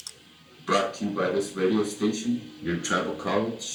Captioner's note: voiceover